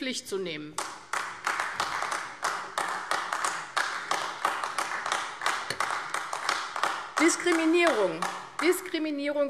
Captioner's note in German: Beifall AfD